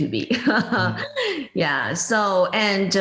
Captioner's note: laughs